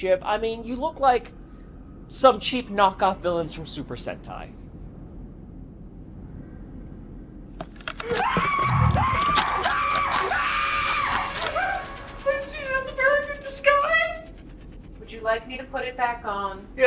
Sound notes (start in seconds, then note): 8.1 Clyde screaming